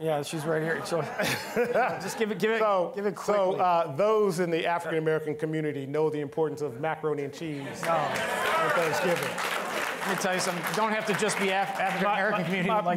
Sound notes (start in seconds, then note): 7.7 audience clapping